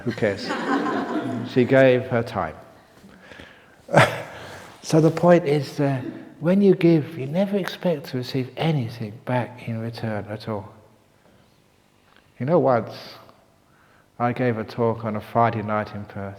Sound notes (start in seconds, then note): 0.0 laughs